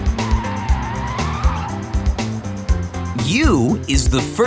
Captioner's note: screeching